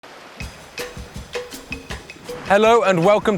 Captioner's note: waves rolling